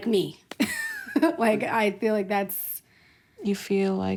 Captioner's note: laughs